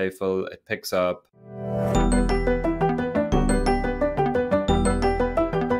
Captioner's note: pixel default ringtone playing